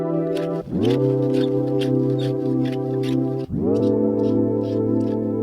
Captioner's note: tool scraping